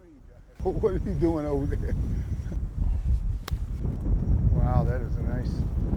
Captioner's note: sound of club hitting the ball